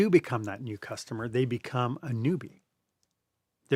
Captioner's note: voice-over